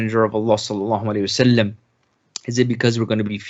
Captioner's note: speaking in Arabic